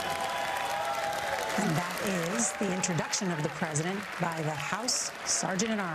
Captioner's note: applause